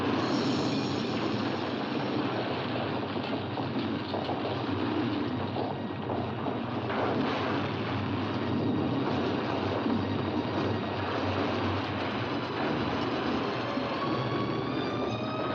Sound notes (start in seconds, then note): 0.0 suspenseful music; 0.8 sounds of destruction